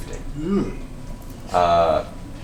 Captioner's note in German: besorgtes Geräusch